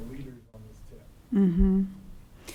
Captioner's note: voice muffled